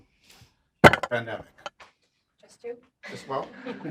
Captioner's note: object thudding